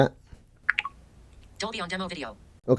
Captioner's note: popping sounds